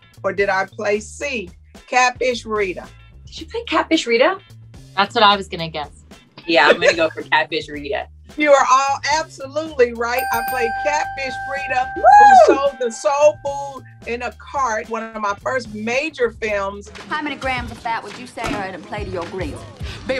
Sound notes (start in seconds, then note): 10.2 bell dings